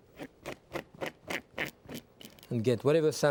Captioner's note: spoon scraping